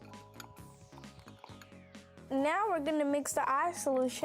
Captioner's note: liquid pouring